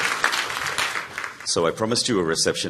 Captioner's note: applause